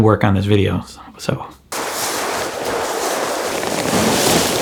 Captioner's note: leaves crunching